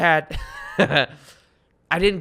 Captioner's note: laughs